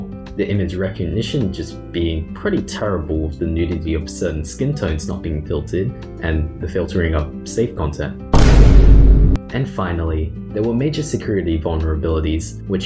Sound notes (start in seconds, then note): 8.3 Vine Boom SFX